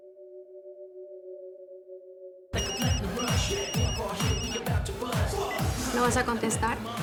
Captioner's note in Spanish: Suena el celular